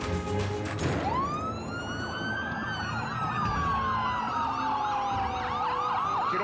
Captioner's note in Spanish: se oyen sirenas